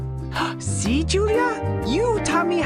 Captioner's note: gasps